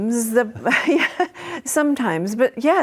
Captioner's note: chuckles